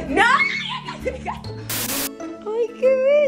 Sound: screams

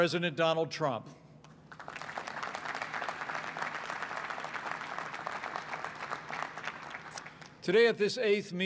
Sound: applause

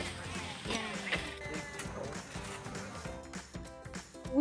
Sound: people murmuring

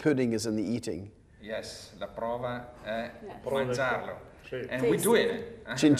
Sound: speaking Italian

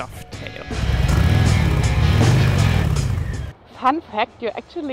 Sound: motorbike engine revving

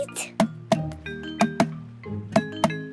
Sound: tapping

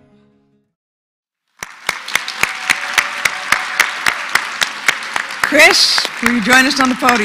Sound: applause

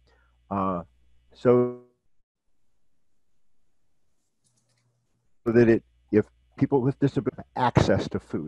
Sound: audio disruption

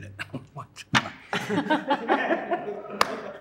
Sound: laughter

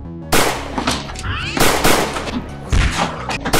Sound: bang!; bang! bang!; smack

